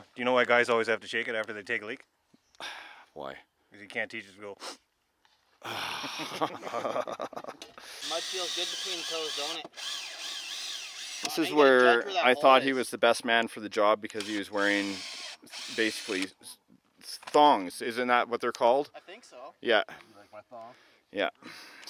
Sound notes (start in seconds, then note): 4.6 sniffs; 5.7 everyone laughing